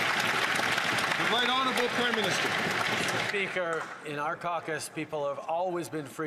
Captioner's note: some Applause